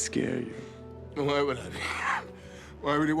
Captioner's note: scoffs